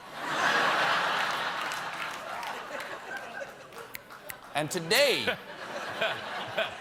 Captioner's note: laughter